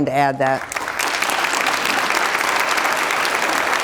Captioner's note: applause